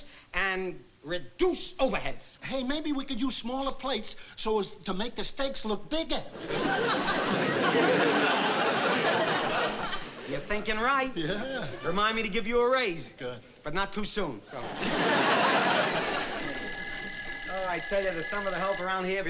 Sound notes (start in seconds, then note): 14.9 phone ringing